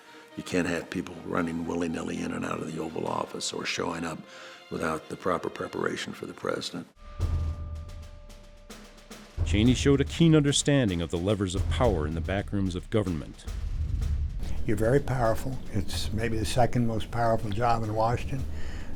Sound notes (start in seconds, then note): 6.9 drumming; 9.3 voiceover